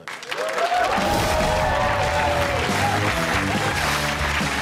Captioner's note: audience claps and cheers